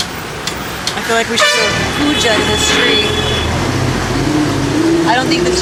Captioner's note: honks and traffic noise